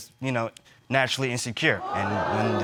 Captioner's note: crowd gasping